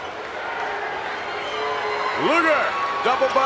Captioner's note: audience jeers